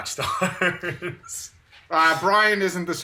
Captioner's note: laughs